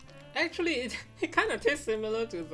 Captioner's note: chuckles